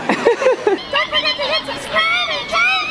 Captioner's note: voice pitched up